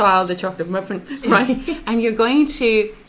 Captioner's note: laughs